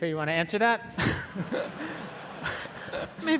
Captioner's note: audience laughing